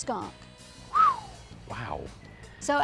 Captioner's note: whistles